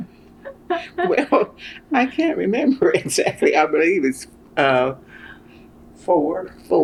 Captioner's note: laughter